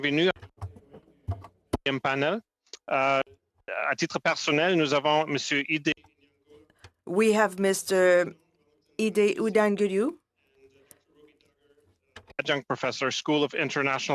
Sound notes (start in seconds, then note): 2.7 speaking French